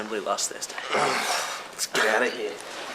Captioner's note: groans